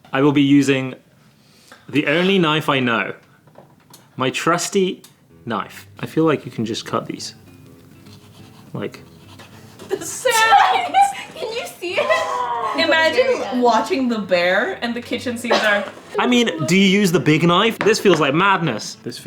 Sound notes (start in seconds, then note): 8.0 knife slicing; 9.8 laughing